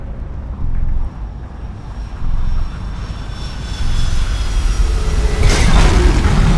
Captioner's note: spooling of aircraft engines; ominous tune plays